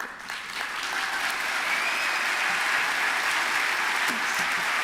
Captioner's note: applause